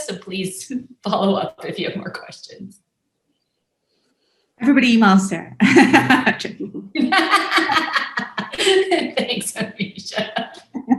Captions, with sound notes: So please follow up if you have more questions. - Everybody emails, Sara (laughs). (laughs loudly) - Thanks Amisha.